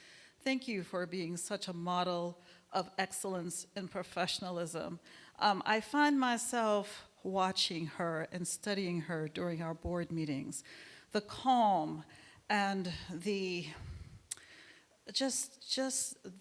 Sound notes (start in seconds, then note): none